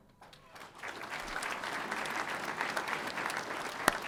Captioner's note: audience applauding